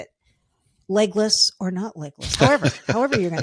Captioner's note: laughing